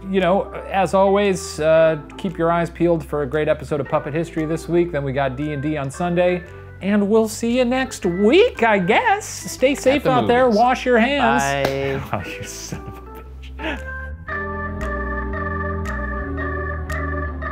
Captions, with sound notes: - Y'know, as always, keep your eyes peeled for a great episode of Puppet History this week, then we got D&D on Sunday, and we'll see you next week, I guess! Stay safe out there, wash your hands! - Bye. - Oh, you son of a bitch. (laughs) (jazzy music)